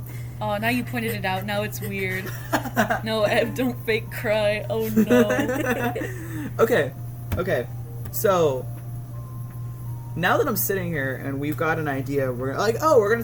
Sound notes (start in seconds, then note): 1.8 laughs; 4.9 laugh